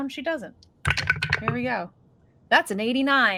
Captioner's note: dice rolling